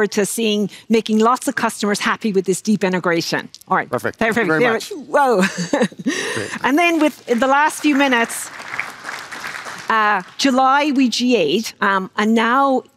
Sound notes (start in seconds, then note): 8.3 applause